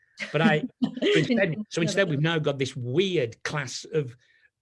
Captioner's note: laughs